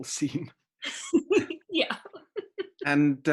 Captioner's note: laughing